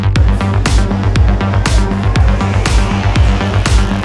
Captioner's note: engine revving